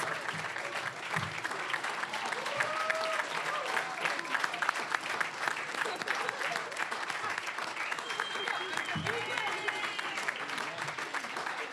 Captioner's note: applause